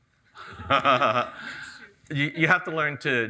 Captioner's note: laughs